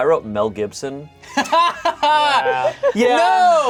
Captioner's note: laughing